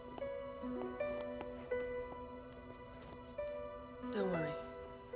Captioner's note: footsteps tapping